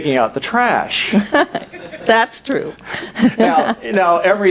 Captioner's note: audience chuckles